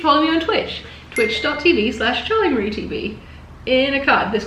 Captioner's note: bell dinging